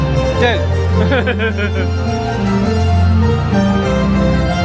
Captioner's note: laughs